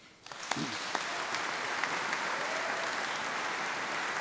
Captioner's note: audience applauds